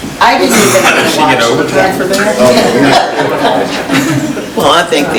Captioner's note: murmurs